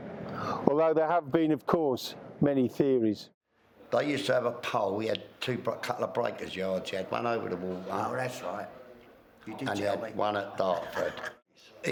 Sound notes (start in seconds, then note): 10.7 laughs